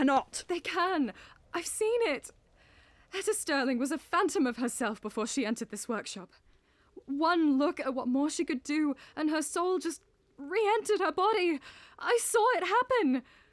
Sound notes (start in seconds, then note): none